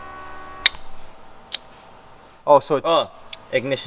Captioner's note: clicking